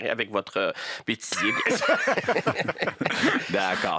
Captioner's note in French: rires